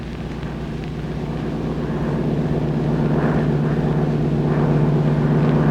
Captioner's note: airplane engine whirring